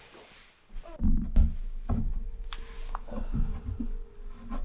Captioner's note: wood thuds